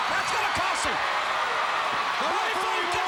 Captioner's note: crowd cheering